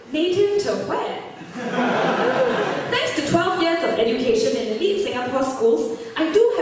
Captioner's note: switches to English with a Singaporean accent